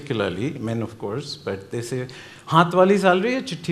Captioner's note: speaking Hindi